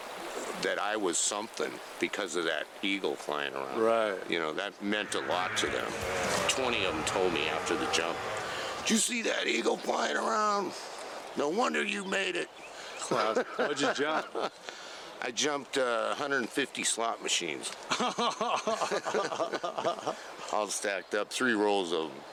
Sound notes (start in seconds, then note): 17.9 laughing